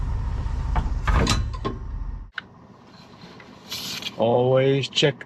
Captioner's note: lever clicking